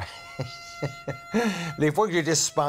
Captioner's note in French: rires